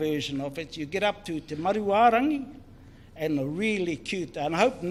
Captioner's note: speaks in foreign language